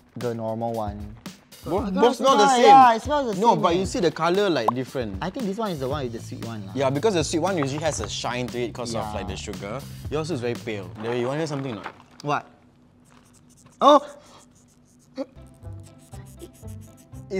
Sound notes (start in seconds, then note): 12.9 squeaky popcorn noises; 13.0 more squeaky popcorn noises